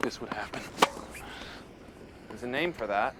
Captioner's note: popping